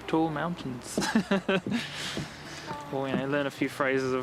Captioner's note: laughing